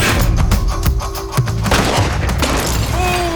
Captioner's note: sound of gunshot